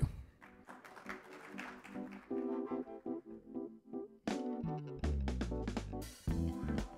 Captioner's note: audience applauding; instrumental music